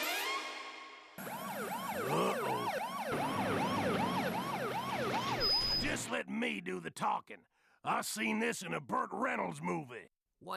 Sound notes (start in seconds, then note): 1.2 police siren wailing